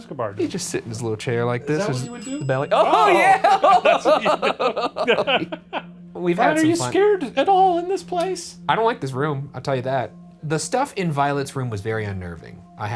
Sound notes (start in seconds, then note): 1.7 bell ringing; 3.6 in Unison; 4.4 both laughing